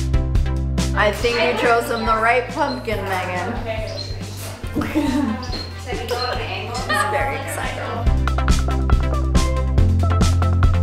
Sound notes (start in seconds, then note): 6.2 laughing; 8.1 upbeat music